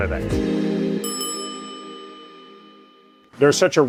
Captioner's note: bell rings